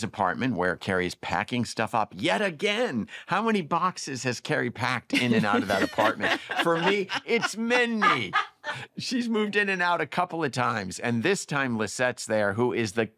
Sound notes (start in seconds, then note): 5.1 laughter